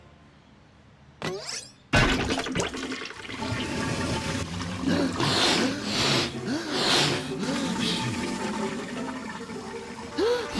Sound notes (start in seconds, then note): 3.4 toilet flushing